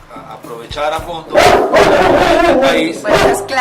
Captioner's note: Claus barking